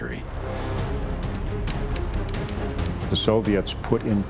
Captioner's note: typewriter clicking